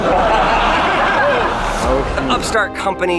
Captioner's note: audience laughs